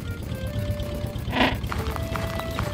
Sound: squawk!

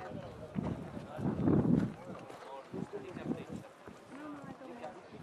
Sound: wind whistling

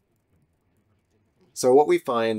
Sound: silence

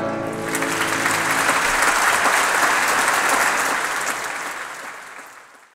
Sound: applause

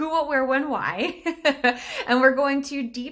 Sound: chuckles

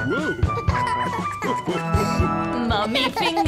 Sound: laughter

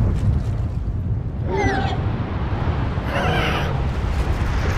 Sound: Speedosaurs Roaring

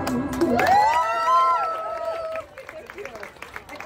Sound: applause & cheers

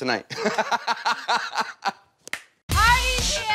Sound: laughter

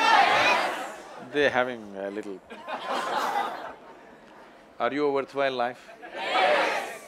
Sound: laughter

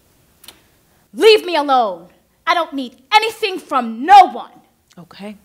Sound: shuffling and exhale; click; shouting

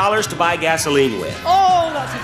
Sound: laughs

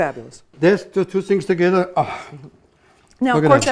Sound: sighs

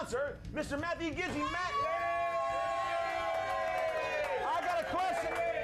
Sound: audience cheering

